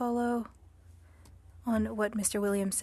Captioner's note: speaking French